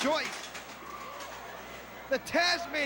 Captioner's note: crowd chatter